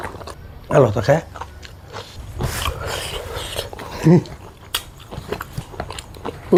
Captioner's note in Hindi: नाक से की जाने वाली आवाज़